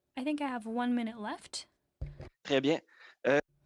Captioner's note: speaking FRENCH